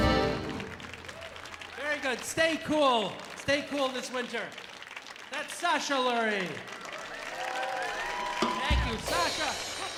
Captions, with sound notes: Very good, stay cool. Stay cool this winter. That's Sasha Lurje. (audience cheering) (audience applauding) Thank you, Sasha.